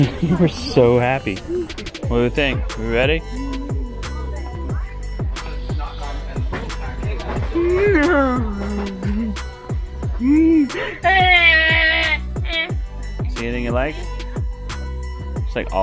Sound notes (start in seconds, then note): 1.3 laughing; 3.8 happy Christmas music; 7.3 moaning